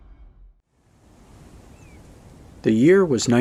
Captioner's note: water rushing